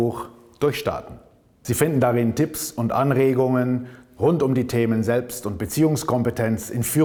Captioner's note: German